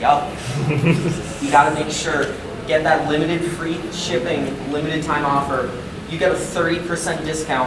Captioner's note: audience giggling